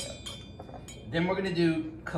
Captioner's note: clanging